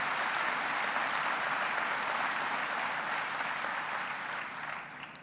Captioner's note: applause